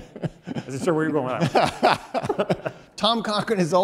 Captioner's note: speaker droned out by laughter